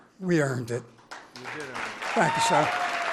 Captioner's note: applause